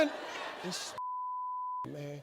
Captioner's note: beeps